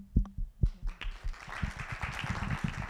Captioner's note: applause